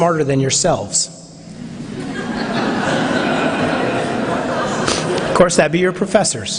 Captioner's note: laughter